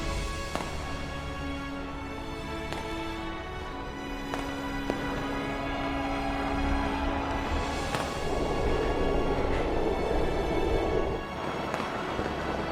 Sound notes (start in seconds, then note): 6.0 crowd cheering; 6.0 fireworks exploding